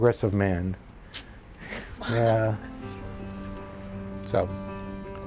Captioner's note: chuckles